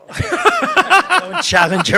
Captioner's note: participants laugh